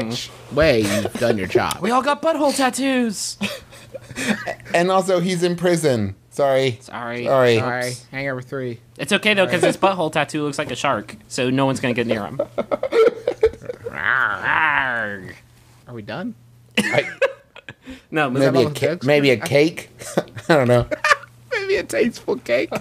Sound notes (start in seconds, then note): 13.6 arrgh